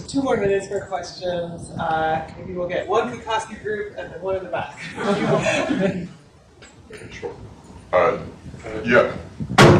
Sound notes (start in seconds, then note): 4.8 laughter